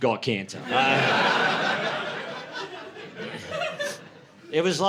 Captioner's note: laughter